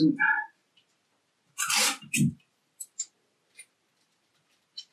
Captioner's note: tape ripping